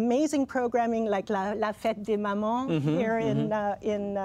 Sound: speaking French

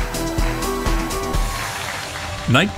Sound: cheering

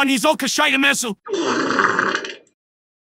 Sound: fart noise

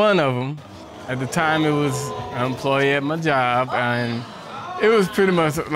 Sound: audience exclaiming

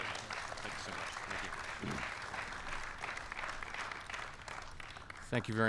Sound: applause

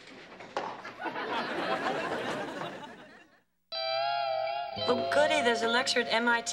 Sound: audience laughing

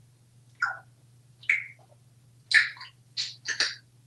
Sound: eating sounds

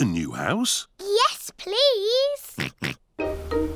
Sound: oinks

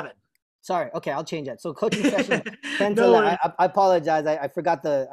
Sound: laughter

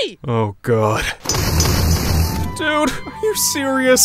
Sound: explosion booming

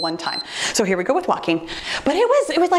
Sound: timer beeps

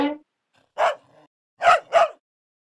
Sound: barking

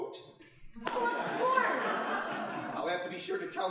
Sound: audience laughing

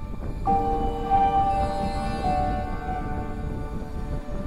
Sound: wind blowing

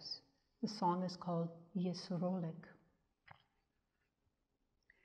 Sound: speaks in German

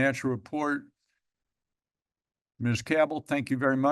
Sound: pause

